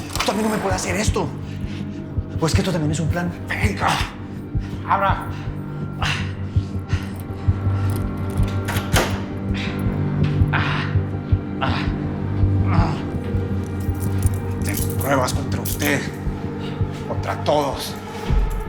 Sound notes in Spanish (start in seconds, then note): 7.9 Sonido al abrir la puerta; 10.6 Quejidos